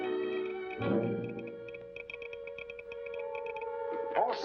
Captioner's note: telegraph machine tapping